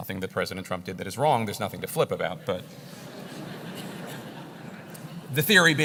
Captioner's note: laugh